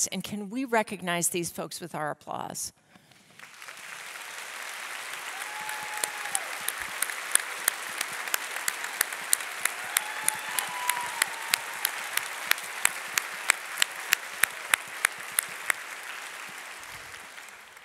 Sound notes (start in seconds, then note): 3.6 audience applauding; 9.7 audience cheering